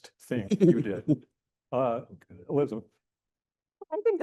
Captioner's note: chuckling